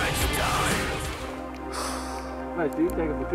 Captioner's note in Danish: Exhales slowly